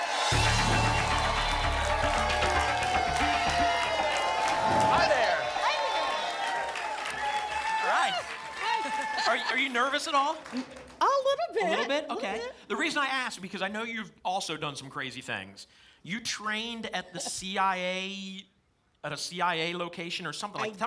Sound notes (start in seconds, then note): 2.4 applause and cheering cont